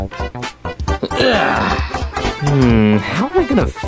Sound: Junior grunting

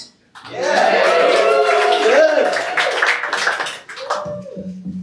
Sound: applause

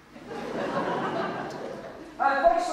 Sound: audience laughs

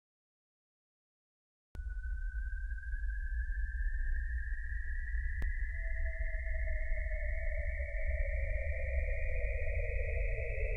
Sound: sound of alien stalker

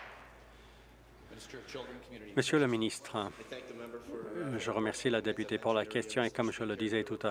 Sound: applause

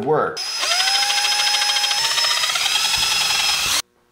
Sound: drill whirring

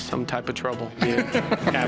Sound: laughs

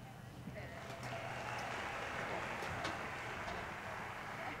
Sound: audience applauding

